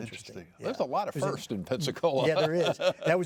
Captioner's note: laughs